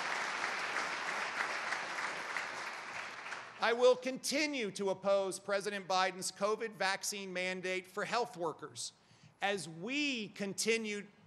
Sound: applause

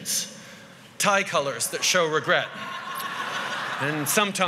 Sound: laughter

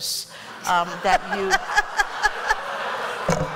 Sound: laughter

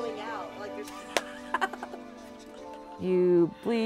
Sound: cackles

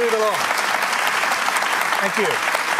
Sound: applause

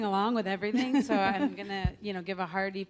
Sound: laughs

